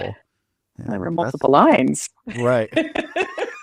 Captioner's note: both laugh